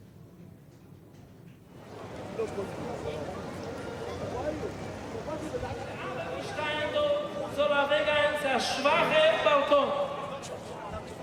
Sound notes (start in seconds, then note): 1.7 people chattering in foreign language; 6.6 rabbi speaking in foreign language